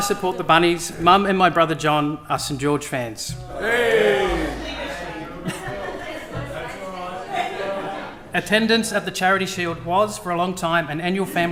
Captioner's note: cheers and laughter